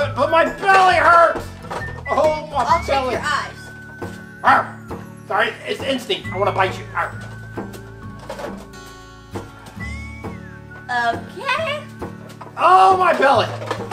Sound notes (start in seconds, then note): 4.4 shark barks; 6.9 barks